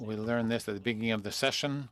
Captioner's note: speaking French